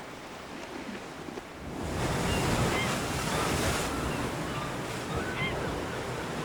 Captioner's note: waves whooshing; birds squawking